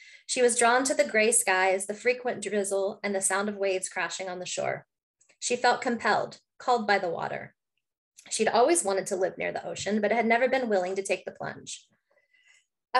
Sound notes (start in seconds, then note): none